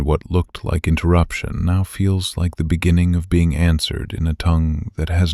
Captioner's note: soft voice